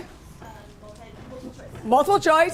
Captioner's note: voiceover